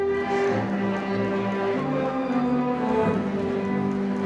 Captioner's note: audience applauding